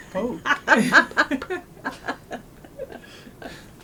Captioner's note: laughter